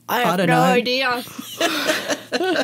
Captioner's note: laughter